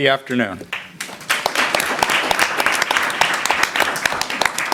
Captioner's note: applause